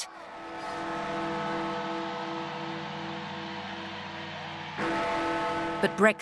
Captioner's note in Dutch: menigte juicht; klokken luiden